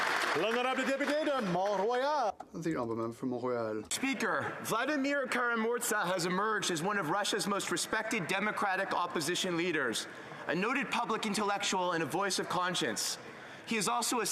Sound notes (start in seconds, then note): 0.0 applause; 4.4 speaking in French